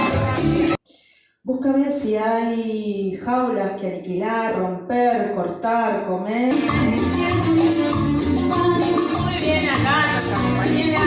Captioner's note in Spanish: Recita poesía